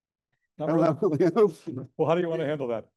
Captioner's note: chuckles